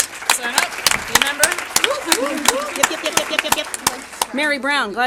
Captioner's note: applause